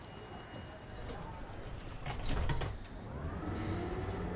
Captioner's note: train door closes